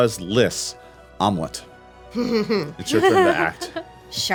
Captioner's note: chuckles